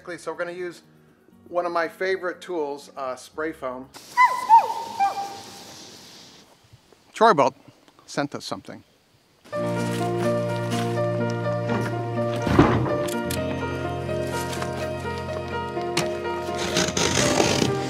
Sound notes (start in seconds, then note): 4.1 dog yelping; 9.6 uptempo bright music